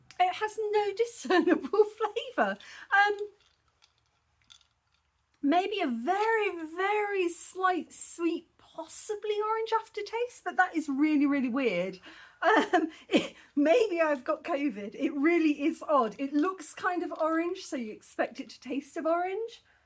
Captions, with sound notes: It has no discernable flavour. Um... Maybe a very, very slight sweet, possibly orange aftertaste? But that is really, really weird. [laughing] Maybe I've got COVID? It really is odd. It looks kind of orange, so you'd expect it to taste of orange.